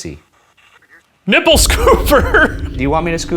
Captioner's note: laughing